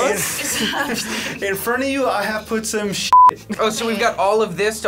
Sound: beep

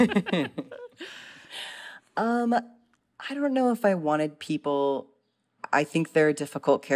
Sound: laughter

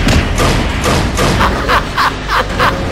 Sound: crazy laugh

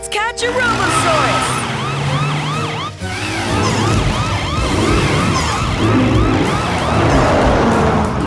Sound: sirens blaring

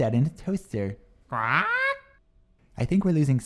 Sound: squawks

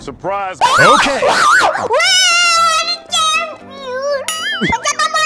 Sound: screaming

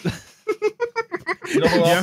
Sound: laughter

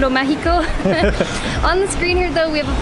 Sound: both laughs

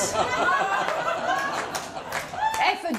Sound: laughter

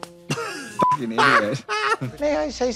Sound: beep

